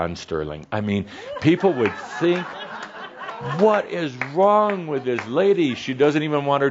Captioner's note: laughter